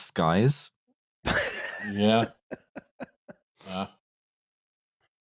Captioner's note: laughs